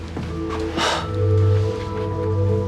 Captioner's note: sighs